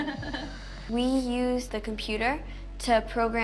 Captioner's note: all laugh